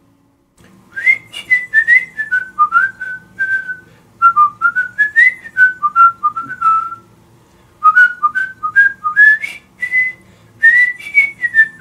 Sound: whistling

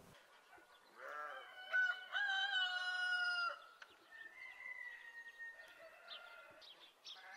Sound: rooster crowing; cow moos

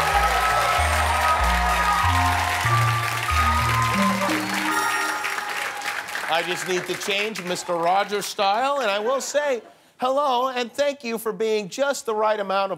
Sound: cheers and applause

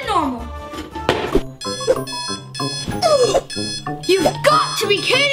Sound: alarm clock

